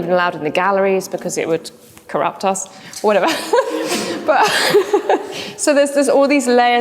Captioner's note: laughs